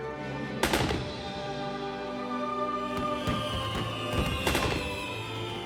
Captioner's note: fireworks popping and whizzing